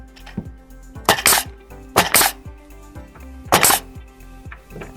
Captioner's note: nail gun thumping